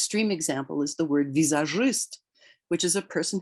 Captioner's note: speaks in Russian